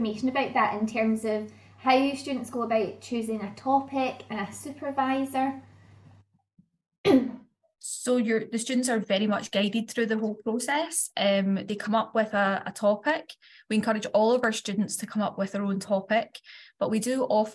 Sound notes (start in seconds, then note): 7.0 cough